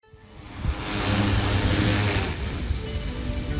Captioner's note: drone